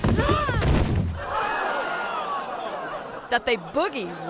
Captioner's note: bodies thudding; audience clamoring; audience gasping